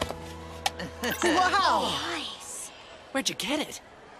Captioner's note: surprised gasps